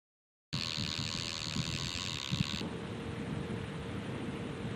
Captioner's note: fishing line dragging